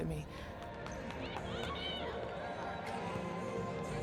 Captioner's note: crowd cheering